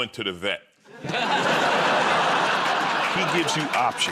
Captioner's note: laughter